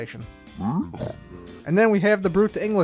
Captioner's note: Piglin snorting